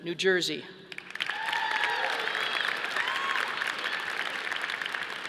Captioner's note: audience applauding